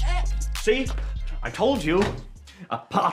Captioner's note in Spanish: aspirando